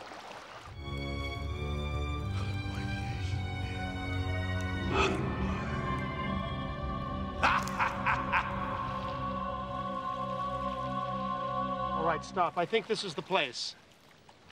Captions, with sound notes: [DRAMATIC MUSIC] [NON-ENGLISH SPEECH] [LAUGHING] All right, stop. I think this is the place.